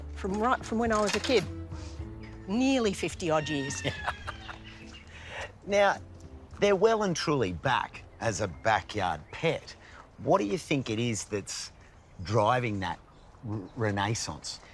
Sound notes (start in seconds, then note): 3.4 laughs